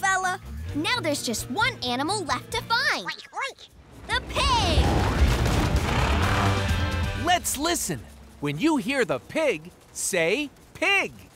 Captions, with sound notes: Now there's just one animal left to find. [oinking] The pig! Let's listen, when you hear the pig say, pig!